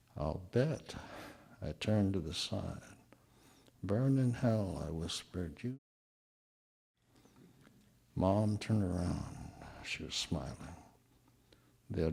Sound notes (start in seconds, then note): 6.9 audio drop